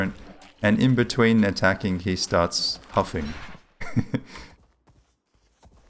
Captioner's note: laughs